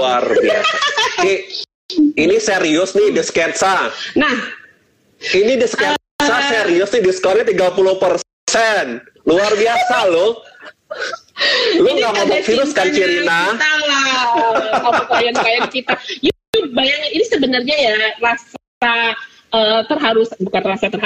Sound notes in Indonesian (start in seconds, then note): 14.1 tertawa